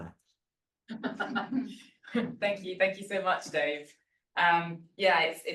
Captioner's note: chuckles